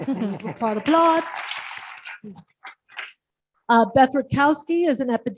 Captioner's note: audience applauds